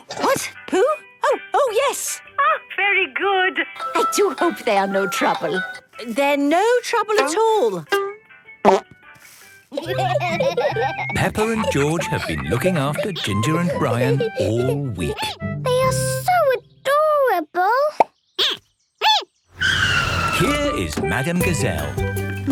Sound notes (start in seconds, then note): 9.7 laughter; 18.1 squeaking